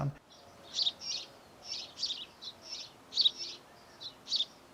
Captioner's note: bird calls